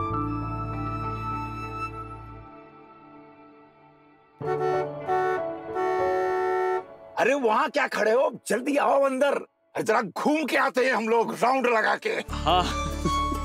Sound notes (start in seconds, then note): 4.4 honking